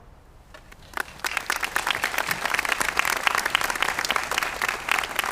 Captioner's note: audience applauding